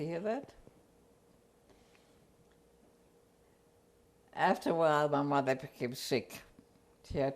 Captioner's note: pauses for 3 seconds